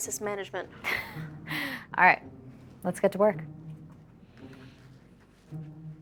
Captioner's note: laughs